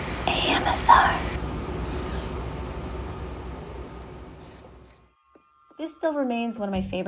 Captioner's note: scraping